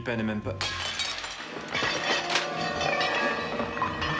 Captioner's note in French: Une assiette se brise